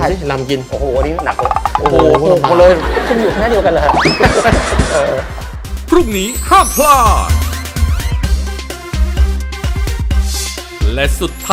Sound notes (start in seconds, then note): 2.6 laughing